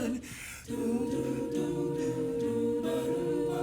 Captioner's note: humming